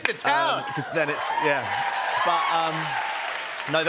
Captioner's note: cheers and applause